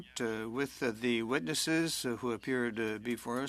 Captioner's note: speaking French